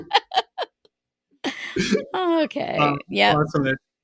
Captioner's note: laughing